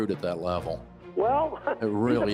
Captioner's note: chuckles